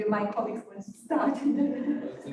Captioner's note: laughter